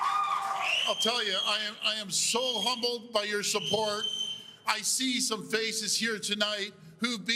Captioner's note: cheers and Applause